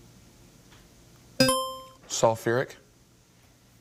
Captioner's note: buzzer chimes